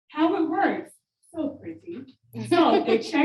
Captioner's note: audience members laughing